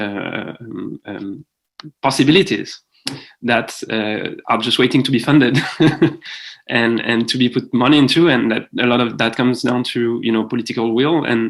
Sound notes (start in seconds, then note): 5.5 chuckles